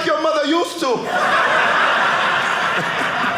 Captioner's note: audience laughing